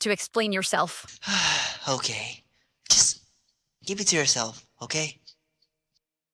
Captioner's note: sigh